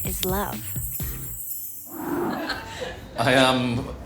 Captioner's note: chimes tinkle